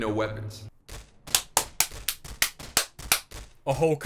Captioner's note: sarcastic Clapping